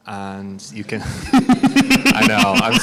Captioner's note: all laugh